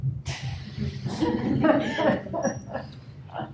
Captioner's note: laughter